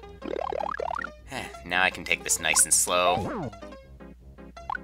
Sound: sigh

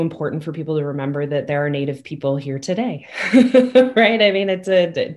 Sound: chuckles

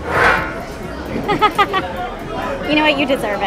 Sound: laughing

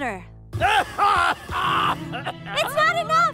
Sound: coughs

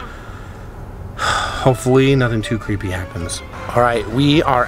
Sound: sighs

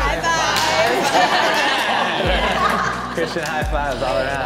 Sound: everyone laughing

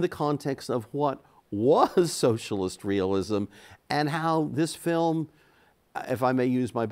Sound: chuckles

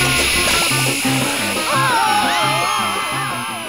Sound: screaming

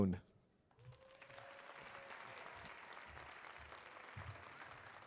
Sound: audience applauding

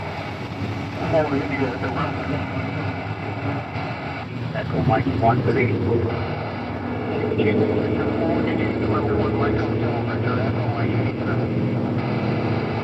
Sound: radio Chatter

